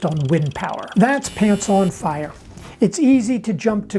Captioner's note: buzz